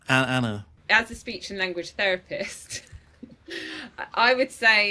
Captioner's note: chuckling